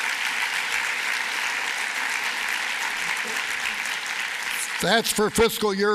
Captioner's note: applause